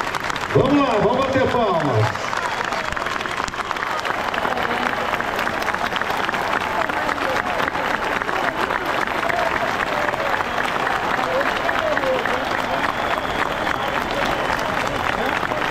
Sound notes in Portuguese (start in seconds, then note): 1.9 Aplausos